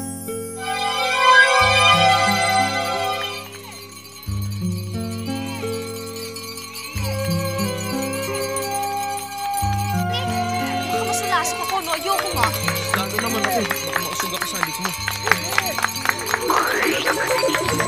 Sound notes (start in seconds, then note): 2.6 glass clinking